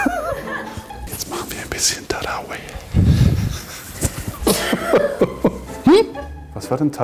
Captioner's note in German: Flüstert anzüglich